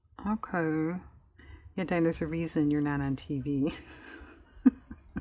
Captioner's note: laughs